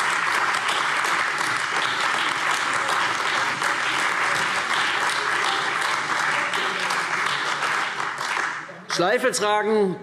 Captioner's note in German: Beifall CDU, BÜNDNIS 90/DIE GRÜNEN, AfD und Freie Demokraten